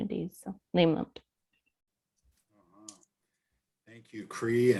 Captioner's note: speaking foreign language